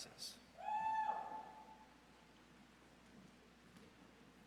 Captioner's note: audience cheers